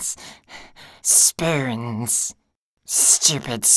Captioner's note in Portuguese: Raspy, voz aguda